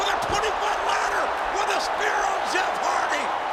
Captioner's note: crowd cheering